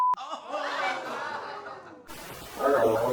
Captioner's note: audience exclaims